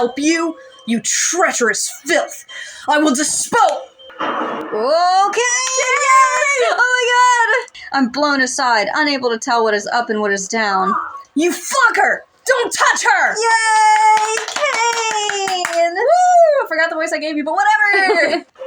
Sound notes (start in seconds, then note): 4.1 thunder; 6.8 clapping; 13.9 both Clapping; 17.9 laugh